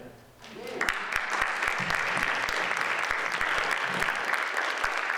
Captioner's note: audience applauds